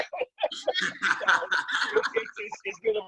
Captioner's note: everyone laughs